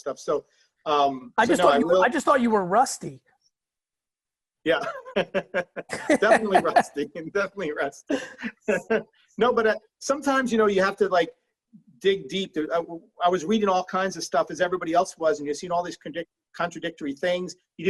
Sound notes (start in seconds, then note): 4.7 laughing